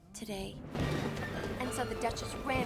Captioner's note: none